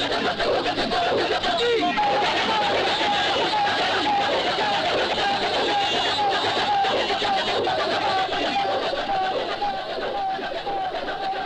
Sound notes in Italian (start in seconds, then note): 2.2 risate